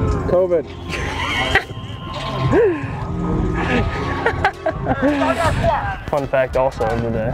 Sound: laughter

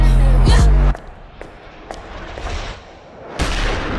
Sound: footsteps; gunshot

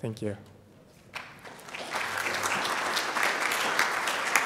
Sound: audience applauding

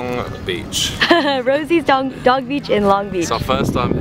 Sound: laughs

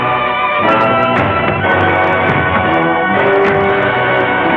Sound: gun thudding

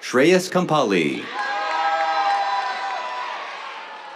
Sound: cheers, applause

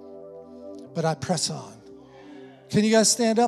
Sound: congregation affirming

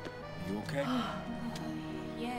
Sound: relieved sigh

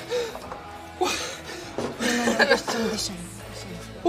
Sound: huffs

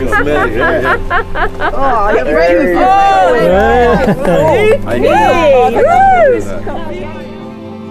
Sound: chatter

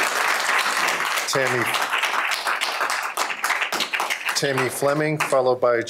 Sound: applause

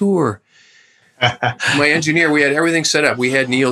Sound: laughter

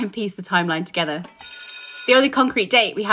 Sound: bell ringing

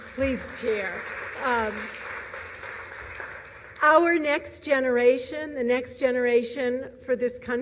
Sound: applause

